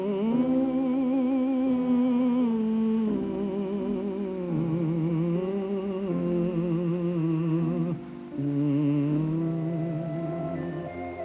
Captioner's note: humming